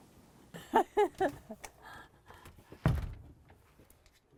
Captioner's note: laughing